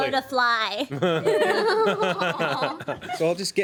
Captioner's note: everyone laughs